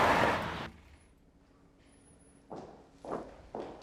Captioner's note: tires screeching